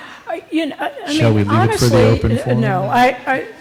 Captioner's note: laughter